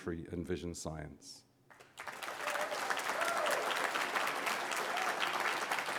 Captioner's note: applause